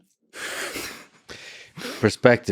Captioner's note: both laughing